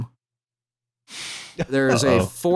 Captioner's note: breathes out audibly